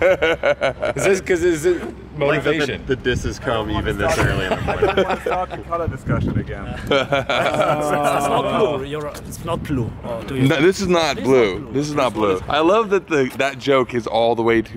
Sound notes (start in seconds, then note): 0.0 laughter; 4.1 laughter